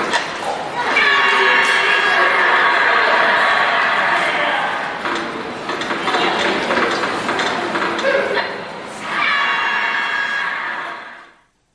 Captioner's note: cheering sound effect